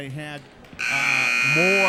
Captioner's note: buzzer sounding